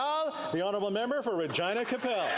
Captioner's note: applause